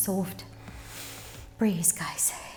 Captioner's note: inhales